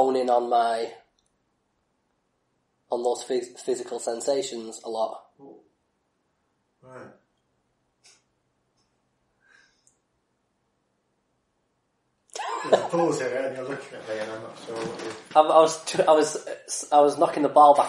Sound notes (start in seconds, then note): 7.2 silence; 7.3 laughs